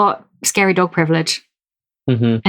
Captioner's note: laughs